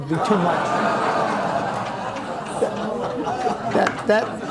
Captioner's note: audience laughing